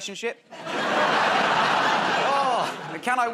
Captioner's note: laughter